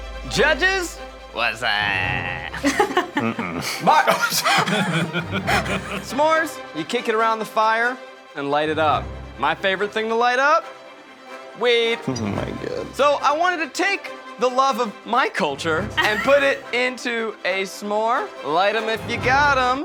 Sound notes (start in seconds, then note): 2.2 laughing; 4.4 all laughing